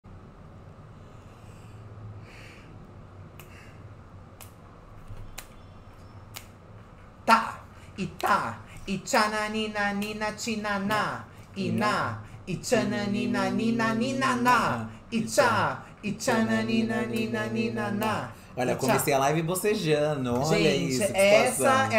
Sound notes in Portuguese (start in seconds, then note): 3.3 estalando os dedos; 10.8 ambos cantarolam